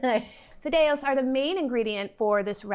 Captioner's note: chuckles